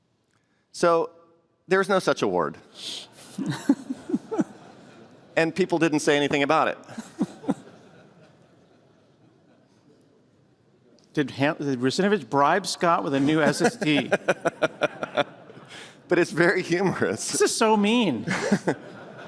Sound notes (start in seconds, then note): 3.3 laughter; 6.8 laughter; 13.1 laughter; 18.2 laughter